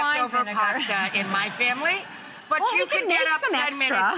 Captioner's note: audience laughing